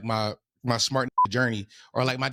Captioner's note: beep